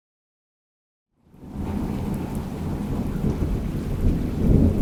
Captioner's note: thunder rumbling